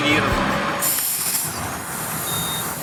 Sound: sound of the lowering wheel

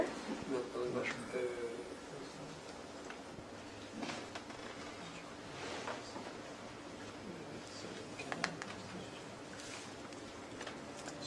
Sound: murmured discussion

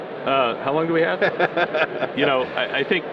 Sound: laughing

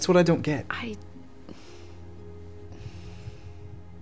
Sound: breathes

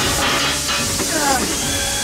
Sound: groan

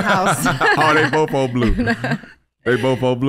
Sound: all laughing

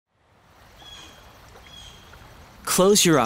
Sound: birds chirping

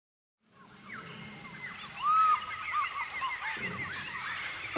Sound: animal noises

